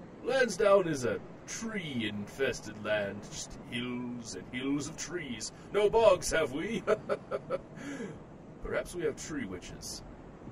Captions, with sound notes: Landsdown is a tree infested land, just hills and hills of trees. No bogs have we. [LAUGH] Perhaps we have tree witches?